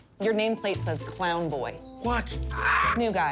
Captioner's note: bird squawks